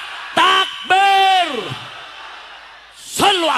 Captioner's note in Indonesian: berteriak